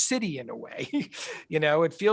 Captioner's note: chuckles